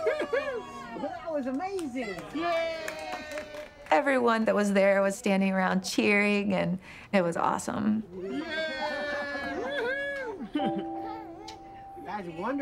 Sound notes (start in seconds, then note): 2.7 group cheers; 11.3 group laughter